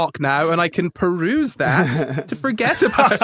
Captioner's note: laugh; snickers